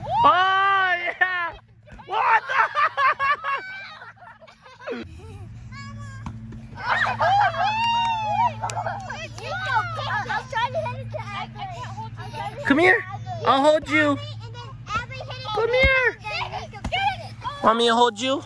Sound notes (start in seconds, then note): 2.1 laughing; 6.8 screaming